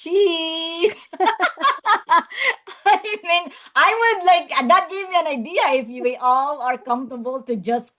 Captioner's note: laughs